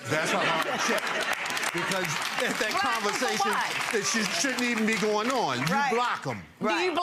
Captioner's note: audience laughing